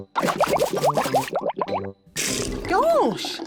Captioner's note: bubbles